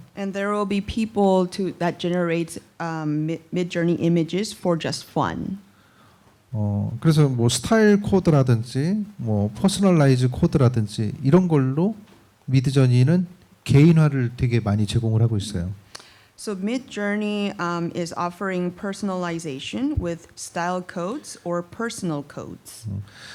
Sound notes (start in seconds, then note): 6.6 speaking korean; 23.1 speaking korean